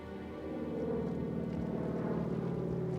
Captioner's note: plane flies overhead